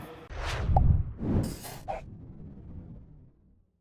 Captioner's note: whooshing